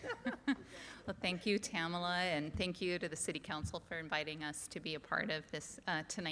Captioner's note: laughter